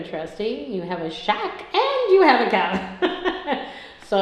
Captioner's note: laughs